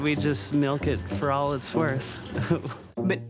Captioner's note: chuckles